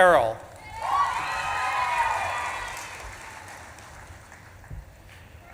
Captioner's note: audience claps and cheers